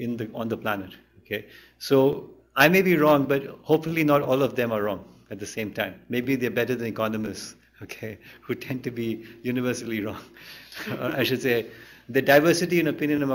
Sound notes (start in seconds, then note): 10.6 laughter; 10.6 chuckles